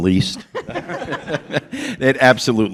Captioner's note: laughter